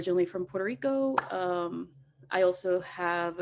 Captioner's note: claps